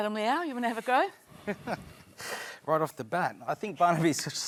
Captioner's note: chuckles